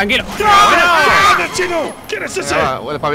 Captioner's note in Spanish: gritan